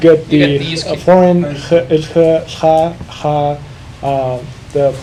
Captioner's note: speaking foreign language